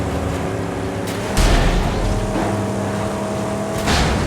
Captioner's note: metal clashes